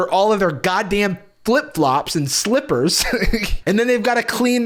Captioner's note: laughs